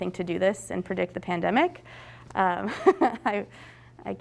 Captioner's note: chuckles